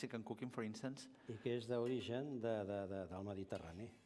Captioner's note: non-english speech